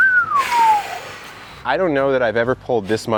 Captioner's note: whistling